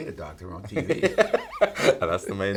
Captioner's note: Paul laughing